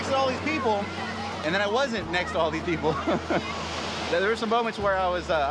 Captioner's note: laughs